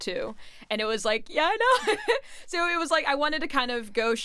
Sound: chuckles

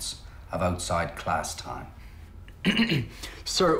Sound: Lloyd Clears His Throat

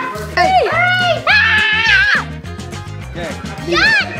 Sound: screaming

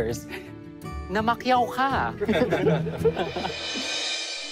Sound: campers chuckling

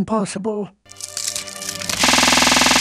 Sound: wood Creaking; wood Snapping

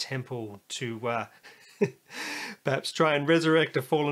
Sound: laughs

